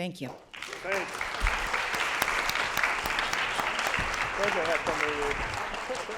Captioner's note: applause